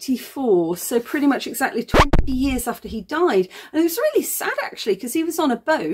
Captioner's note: record scratch